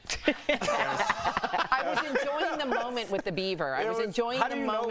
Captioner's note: laughter